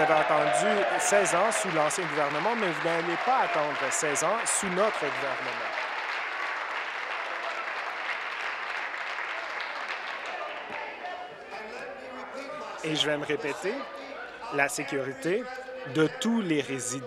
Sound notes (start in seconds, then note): 4.8 some Applause